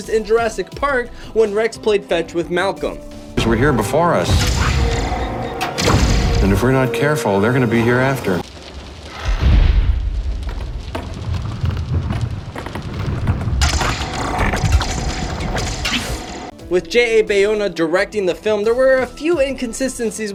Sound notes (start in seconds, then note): 9.8 cable breaks